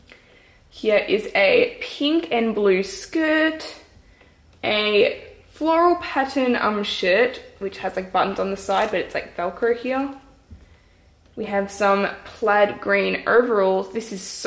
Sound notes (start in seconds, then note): none